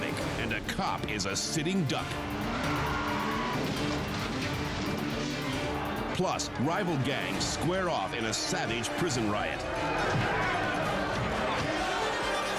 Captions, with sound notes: and a cop is a sitting duck. (tires screech) (crash roars) Plus, rival gangs square off in a savage prison riot. (gangsters shout)